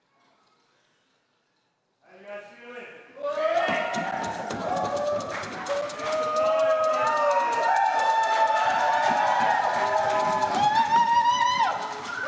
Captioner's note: applause